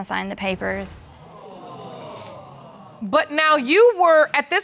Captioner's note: audience exclaiming